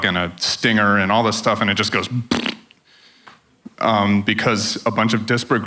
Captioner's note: makes a splat sound